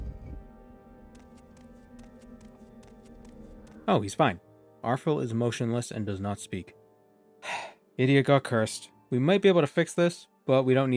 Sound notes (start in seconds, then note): 7.4 disappointed sigh